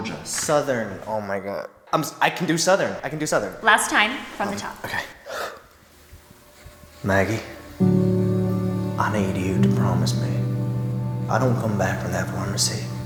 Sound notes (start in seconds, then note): 5.1 breathes in; 7.8 in southern accent